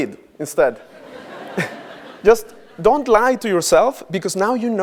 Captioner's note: laugh